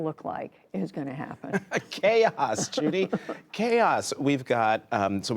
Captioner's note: laughter